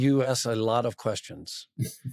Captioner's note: laughs